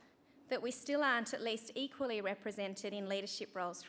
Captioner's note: none